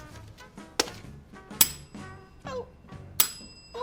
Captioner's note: bell rings